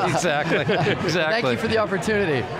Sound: laughs

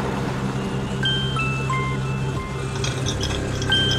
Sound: phone rings

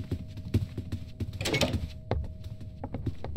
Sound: door Opens

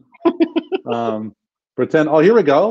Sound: laughs

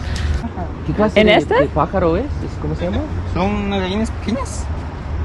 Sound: speaking in Spanish

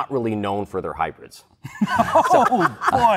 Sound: laughter

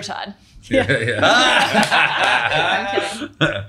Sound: laughing

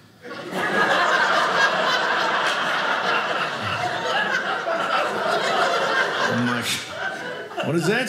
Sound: audience laughing

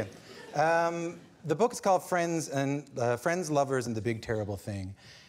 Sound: laughter

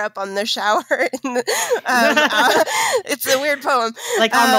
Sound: laughing

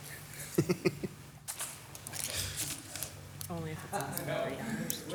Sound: Mayor laughs

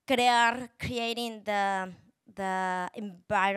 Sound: speaking Spanish

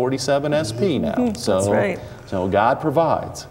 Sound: giggling

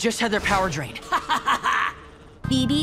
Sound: laughs

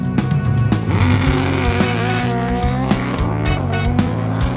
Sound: engine roaring

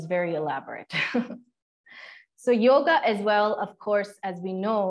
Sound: laughter

